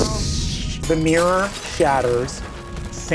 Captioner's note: mirror shatters